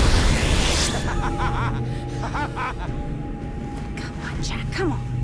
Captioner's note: laughs evilly